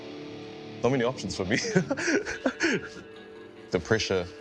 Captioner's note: chuckles